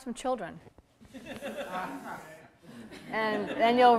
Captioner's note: audience laughter